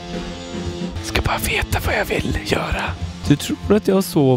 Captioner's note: whispering